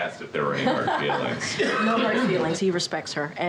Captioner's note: laughs